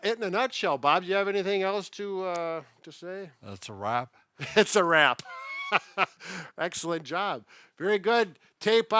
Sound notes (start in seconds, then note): 5.9 laughing